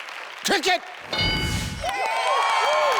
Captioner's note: contestants cheer; ding sound